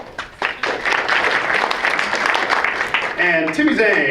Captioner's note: audience applauds